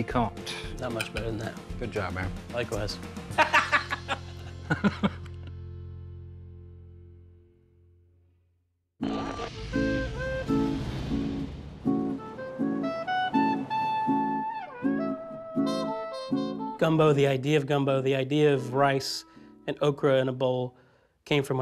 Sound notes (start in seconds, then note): 3.3 laughing